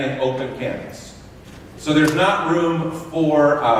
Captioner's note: none